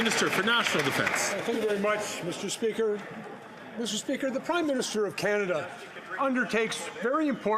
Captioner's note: some Applause